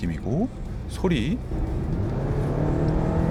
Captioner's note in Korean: 가속 소리